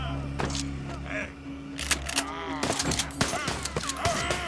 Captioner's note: rifles Cocking, Shots Firing